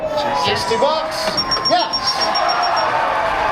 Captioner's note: audience cheers; tone chimes; audience cheers